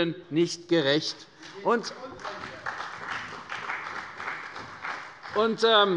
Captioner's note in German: Beifall bei der : Hier geht es um Grundrechte!